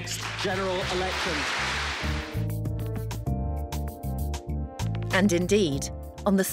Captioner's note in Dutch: publiek applaudisseert